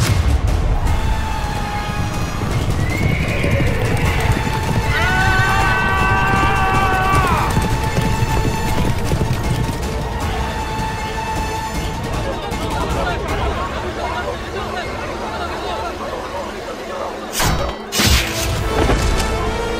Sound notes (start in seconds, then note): 2.7 horses galloping and neighing; 4.9 shouting and yelling